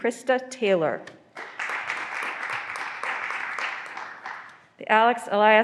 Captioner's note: graduands applauding